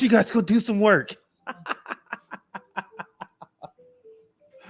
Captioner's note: laughter